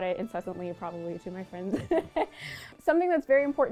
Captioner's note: laughs